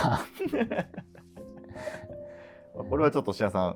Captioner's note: laughing